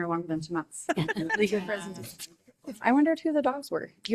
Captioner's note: group laughing